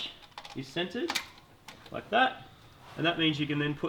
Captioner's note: clicks